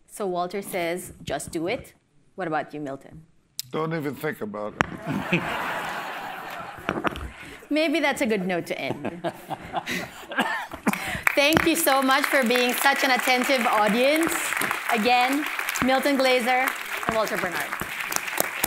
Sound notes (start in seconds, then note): 5.0 laughter; 18.4 applause